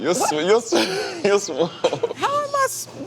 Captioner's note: laughing